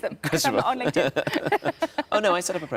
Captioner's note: Sarah and Tom laughing